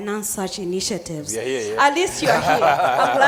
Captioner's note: laughing